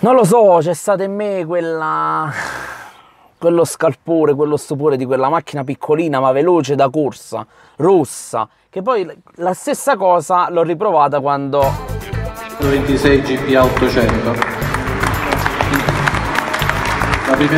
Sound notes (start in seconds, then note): 11.6 funky music; 12.9 applause in the room